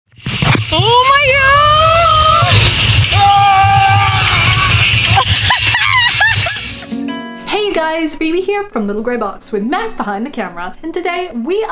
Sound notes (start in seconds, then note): 3.0 screaming in terror; 5.0 laughing manically